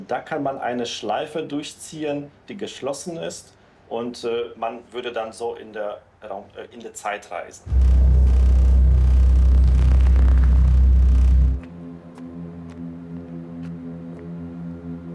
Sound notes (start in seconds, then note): 7.6 electric and drone noises; 12.5 footsteps